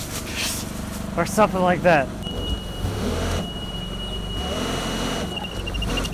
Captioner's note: fork truck motor revving